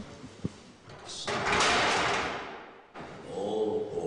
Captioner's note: clattering